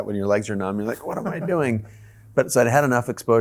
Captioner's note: chuckles